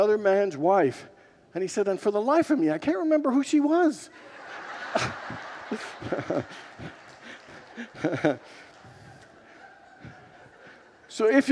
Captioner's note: congregants laugh